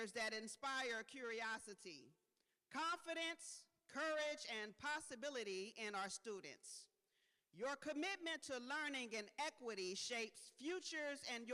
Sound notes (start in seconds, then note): none